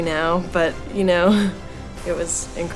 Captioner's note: laughs